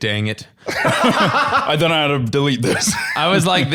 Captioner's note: both laughing